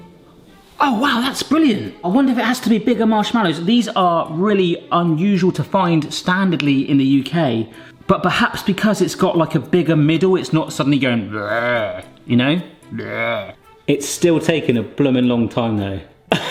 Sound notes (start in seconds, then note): 11.2 groans; 12.9 groaning